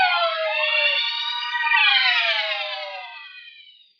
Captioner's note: words echoing in repeating